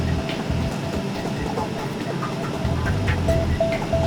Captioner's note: paver whirling